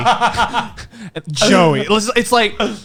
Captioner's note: laughs